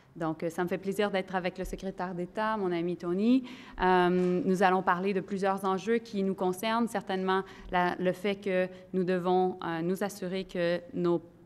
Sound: in French

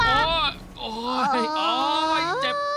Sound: shrieking

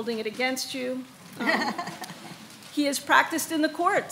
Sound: laughing

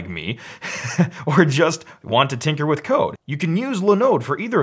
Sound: chuckles

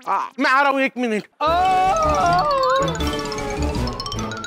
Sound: yelps

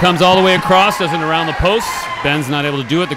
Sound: audience cheering

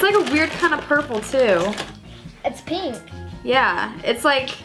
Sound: plastic bag crinkles

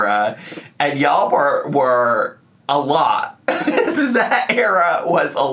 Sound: laughs

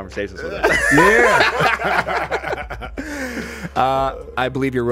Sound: everyone laughing

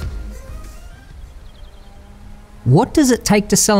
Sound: bird chirps

